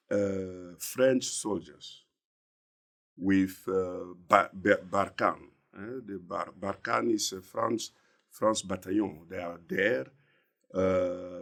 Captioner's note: French